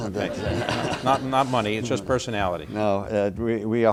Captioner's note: laughter